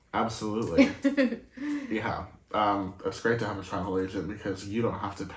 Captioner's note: laugh